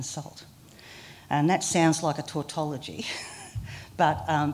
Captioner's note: laughter